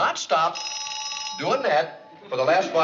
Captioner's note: phone ringing